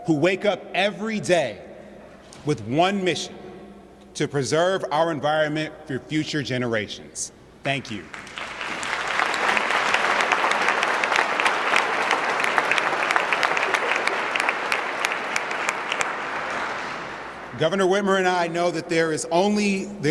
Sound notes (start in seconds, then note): 8.6 applause